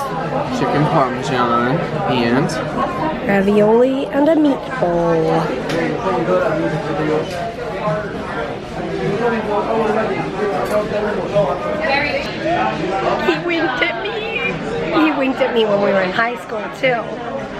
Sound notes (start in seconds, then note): 5.6 background chatter